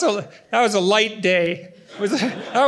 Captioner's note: laughter